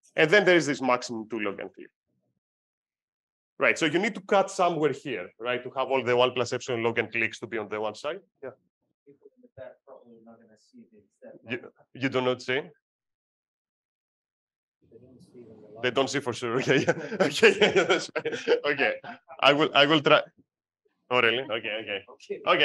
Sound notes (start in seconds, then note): 15.0 person 1 faintly speaks; 16.6 chuckles; 16.6 laughs